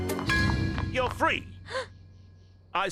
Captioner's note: gasp